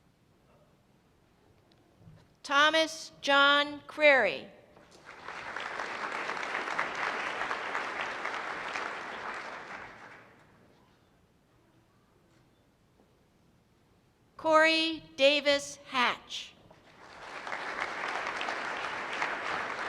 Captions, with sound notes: Thomas John Cuery. (applause) Corey Davis Hatch. (applause)